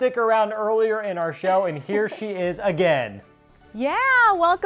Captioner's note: laughing